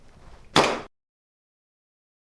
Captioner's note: gunshot; silence